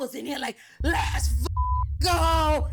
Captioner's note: beep